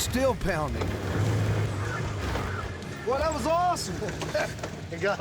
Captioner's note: motor comes to a stop